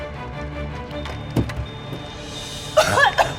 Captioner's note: smoke detector beeping; jogger coughing; tense music